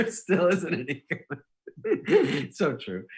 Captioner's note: laughing